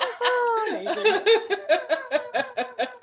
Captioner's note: laughter